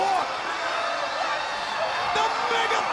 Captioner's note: crowd cheering